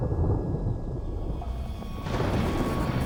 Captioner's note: thunder rumbling; electrical crackling